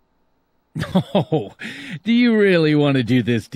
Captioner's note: laughs sarcastically